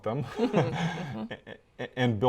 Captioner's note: both laugh